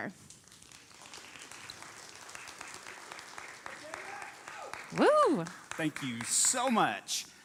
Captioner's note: applauding